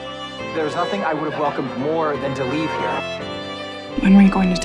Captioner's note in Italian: voce fuori campo